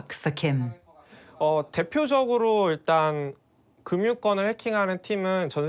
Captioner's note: speaking Korean